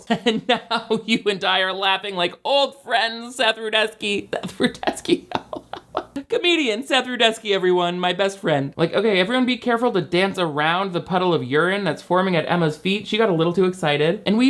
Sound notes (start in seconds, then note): 4.4 laughing